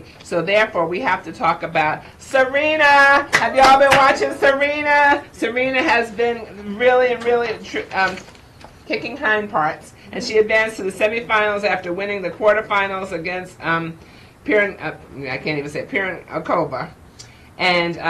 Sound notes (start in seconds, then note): 5.0 applauds